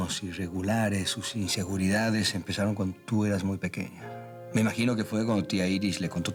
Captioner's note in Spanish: none